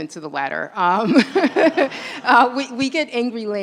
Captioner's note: laughter